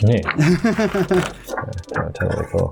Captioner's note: laughs